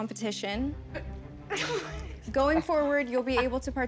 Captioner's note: laughs